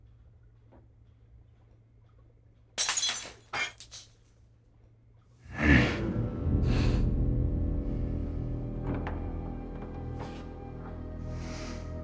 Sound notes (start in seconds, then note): 2.8 glass clatters; 5.4 ominous music; 5.5 Donald grunts; 5.5 Donald sniffing